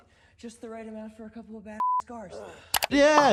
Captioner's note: beep